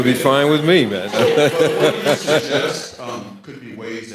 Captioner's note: audience laughing